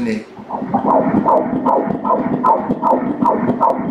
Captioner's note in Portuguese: batidas do coração